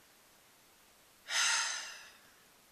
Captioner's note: heavy sigh